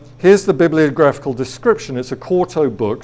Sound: none

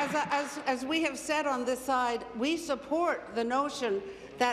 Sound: applause

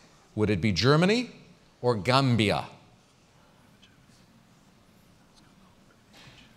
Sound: pause

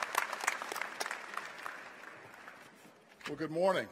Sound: applause

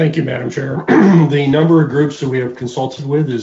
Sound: clears throat

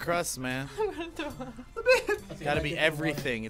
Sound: chuckles

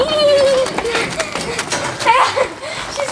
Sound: laughing

